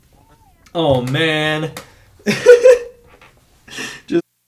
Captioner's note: laughs